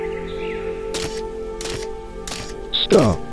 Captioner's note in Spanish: Música natural relajante; Pasos animatrónicos